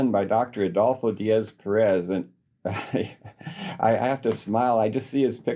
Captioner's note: laughter